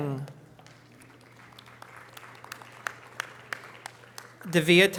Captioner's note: audience applause